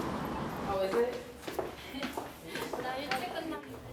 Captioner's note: office chatter